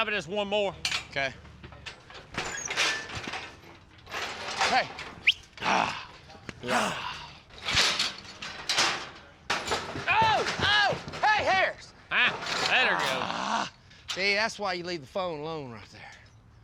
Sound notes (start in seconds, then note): 1.6 gate clanks, prompts cattle; 12.1 gate clanks